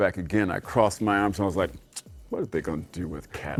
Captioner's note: clicks tongue